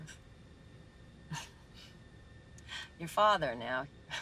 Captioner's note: Jess chuckling